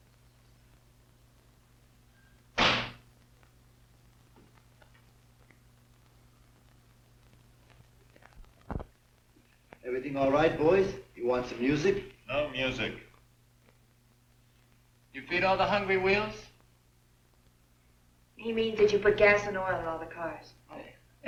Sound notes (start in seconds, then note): 2.6 door banging